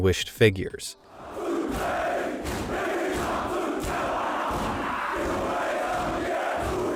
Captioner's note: students chanting; students stomping feet